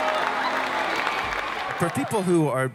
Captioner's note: cheering